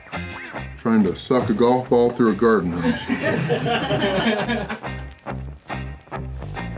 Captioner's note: laughter